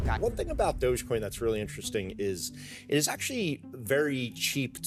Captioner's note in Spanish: hablando en inglés